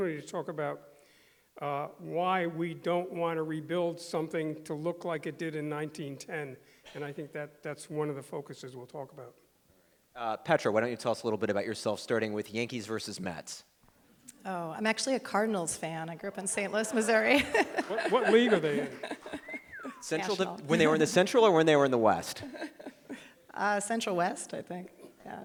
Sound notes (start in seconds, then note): 17.7 chuckles; 23.0 chuckles